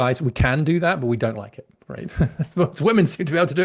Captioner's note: laughs